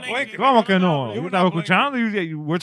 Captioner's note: speaking In Foreign Language